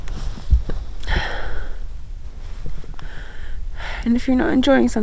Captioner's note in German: schwer atmend